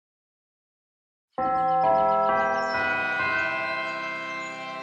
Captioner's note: bell chimes